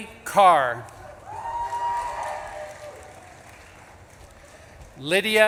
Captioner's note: audience claps and cheers